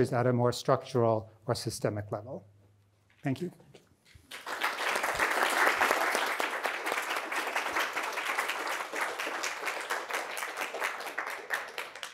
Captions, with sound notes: at a more structural or systemic level. Thank you. (audience applauding)